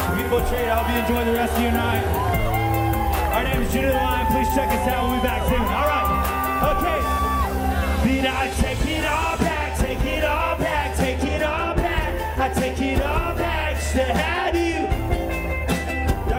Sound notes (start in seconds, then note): 6.0 crowd cheering